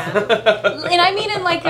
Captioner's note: Nathan laughs